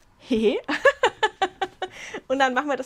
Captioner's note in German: Gelächter